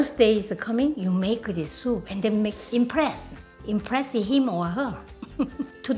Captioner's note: laughs